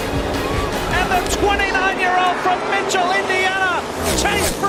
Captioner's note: crowd cheering